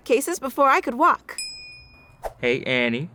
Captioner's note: bell dings